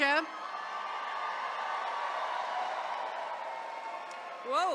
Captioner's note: attendees cheering